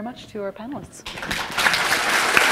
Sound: applause

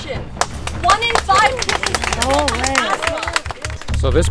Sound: applause

